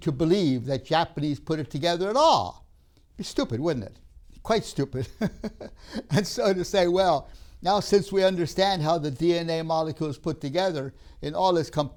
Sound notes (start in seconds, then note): 5.0 laughs